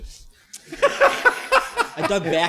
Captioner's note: laughter